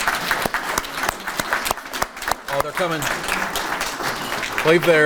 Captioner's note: everyone applauding